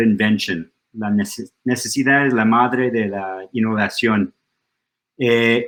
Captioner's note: in Spanish